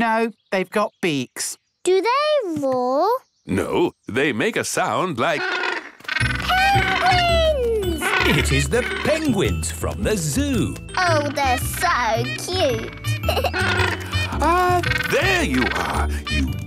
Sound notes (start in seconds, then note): 7.9 honking; 13.0 giggles; 14.1 honking